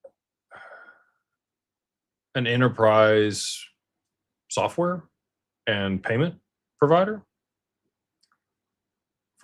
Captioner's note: sighs